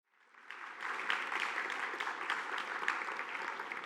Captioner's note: audience applauding